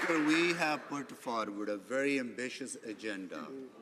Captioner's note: some Applause